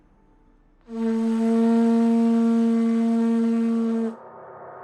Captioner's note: blowing sound